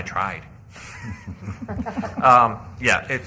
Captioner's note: laughter